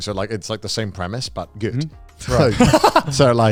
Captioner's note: laughing